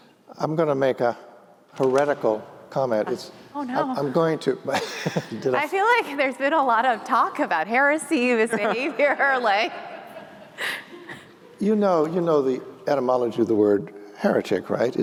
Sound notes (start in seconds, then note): 4.7 laughter; 9.6 laughter